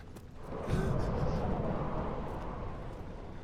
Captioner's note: wooshing